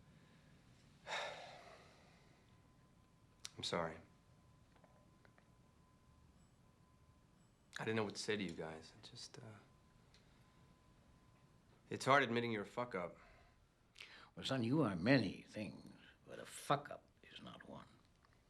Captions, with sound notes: (sighs) - I'm sorry. I didn't know what to say to you guys. It's hard admitting you're a fuckup. - Son, you are many things, but a fuckup is not one.